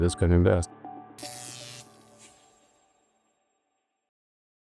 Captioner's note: electricity buzzing